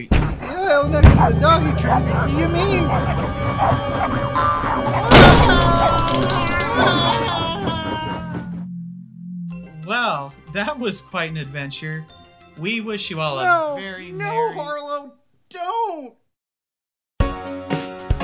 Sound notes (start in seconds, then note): 0.9 door banging; 3.6 dogs barking; 4.9 door shoots open, while dogs run inside; 6.3 Hubert screams